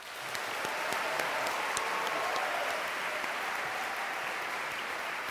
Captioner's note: cheering and applause